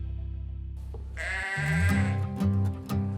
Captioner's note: goat bleating; light music